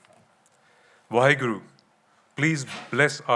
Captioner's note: speaking in foreign language